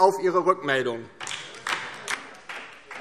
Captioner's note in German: Beifall DIE LINKE